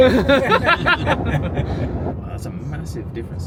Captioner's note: all laugh